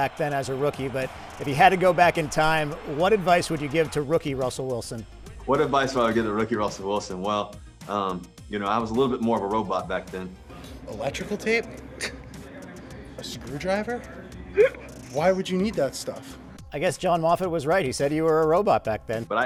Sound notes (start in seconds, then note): 12.5 scoffs; 14.6 cameraman laughs